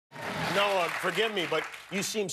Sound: cheers and applause

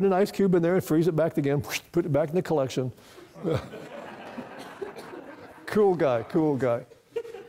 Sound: laughter

